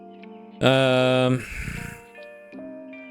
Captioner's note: sighs